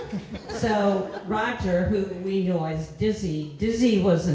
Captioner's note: laughter